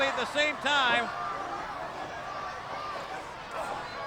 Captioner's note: crowd yelling